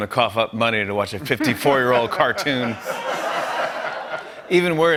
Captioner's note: laughter